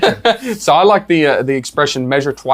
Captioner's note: laughs